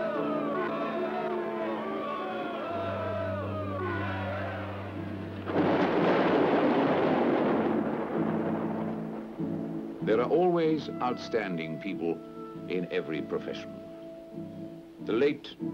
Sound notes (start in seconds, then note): 5.3 thunder booming